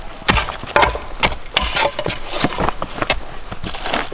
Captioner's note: shovel thudding